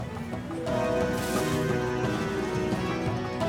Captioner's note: bushes rustling